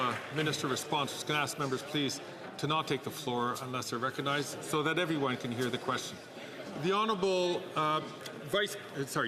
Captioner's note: some Applause